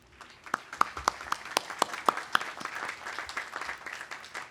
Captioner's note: audience applauding